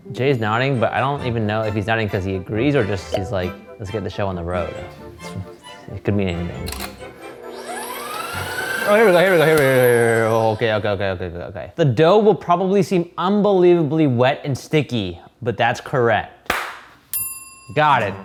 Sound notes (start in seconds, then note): 6.4 mixer whirring; 17.1 bell dinging